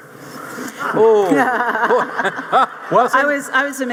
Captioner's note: audience laughing